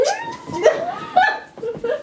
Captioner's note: laughing